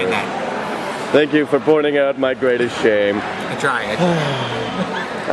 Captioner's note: sigh